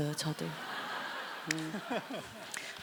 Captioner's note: laugh